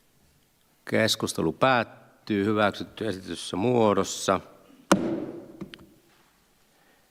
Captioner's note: Nuijan kopautus